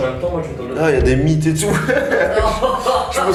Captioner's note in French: rires